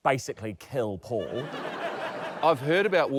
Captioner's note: laughter